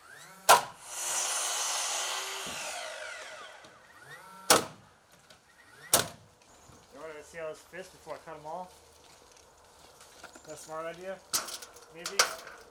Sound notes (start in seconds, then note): 1.7 nail gun popping; 1.7 saw grinding